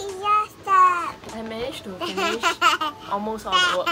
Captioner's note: laughs